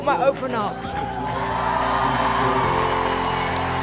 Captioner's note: cheering